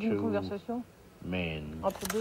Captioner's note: women speaking in a foreign language